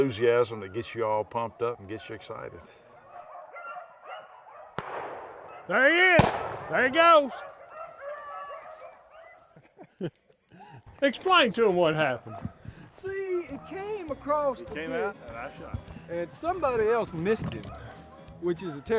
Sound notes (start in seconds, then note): 4.8 gun shots; 8.5 dogs barking